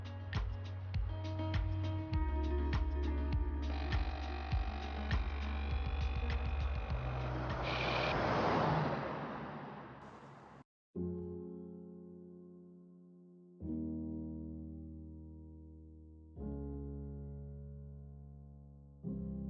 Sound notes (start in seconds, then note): 3.7 machine whirring; 11.0 gentle piano music